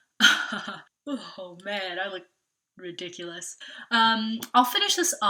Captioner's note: laughs lightly